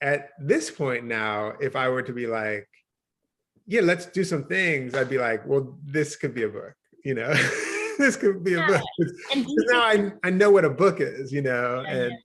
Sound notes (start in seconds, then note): 7.3 chuckles